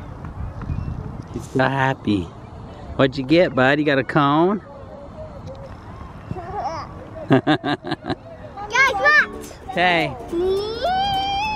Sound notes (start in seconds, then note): 7.2 laughing